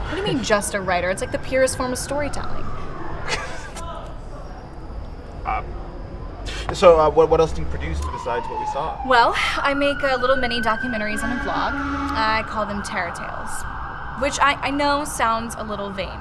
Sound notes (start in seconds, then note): 3.2 laughs; 9.3 siren